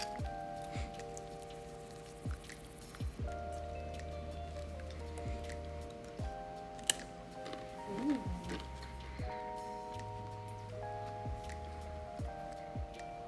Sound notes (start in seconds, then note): 7.3 chip crunches